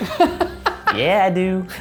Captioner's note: laughs